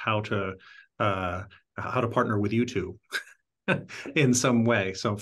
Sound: laugh

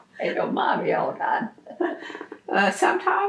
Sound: laughs

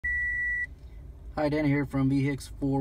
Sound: sharp beep

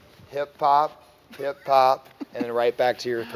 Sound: laughs

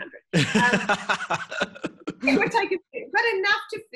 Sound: laughing

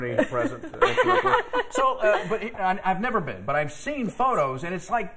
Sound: laughter

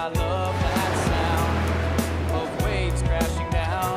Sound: waves crashing against cliffs

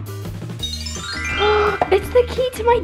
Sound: magical sound

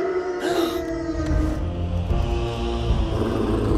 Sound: howling; Dewey gasps; ominous music playing

